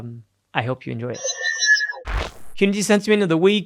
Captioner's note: electronic beeping